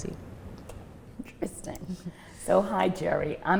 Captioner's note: laughs laughs